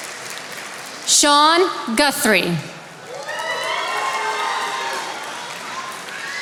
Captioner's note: attendees applauding